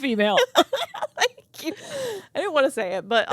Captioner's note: both laughing